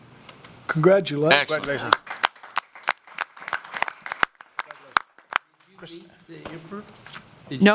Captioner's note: applause